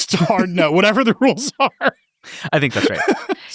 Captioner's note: laughs